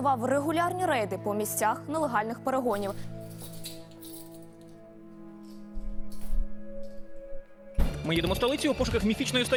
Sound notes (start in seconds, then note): 2.7 keys jingling